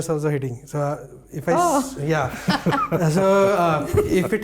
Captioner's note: nervous laughter